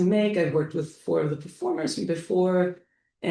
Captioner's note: none